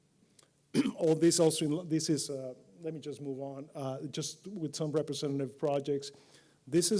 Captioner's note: cough